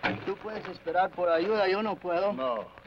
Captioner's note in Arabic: الأمريكي الأصلي يتحدث لغة أجنبية